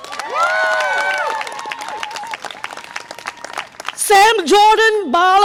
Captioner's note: audience applause and cheer